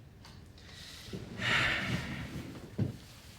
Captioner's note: sigh